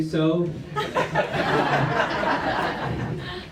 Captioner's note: laughter